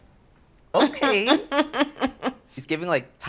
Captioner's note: cheeky laugh